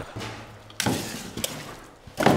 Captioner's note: rattling